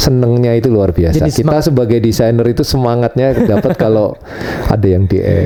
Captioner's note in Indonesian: tertawa